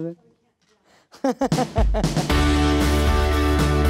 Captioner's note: giggling; upbeat music